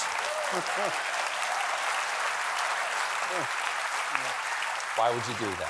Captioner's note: applause; laughter